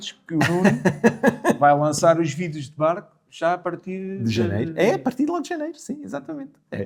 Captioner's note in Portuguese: risadas